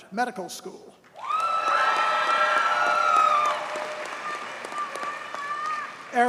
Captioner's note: audience cheers and applauds